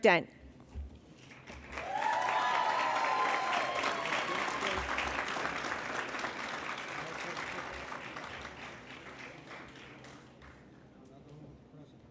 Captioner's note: cheering and Applause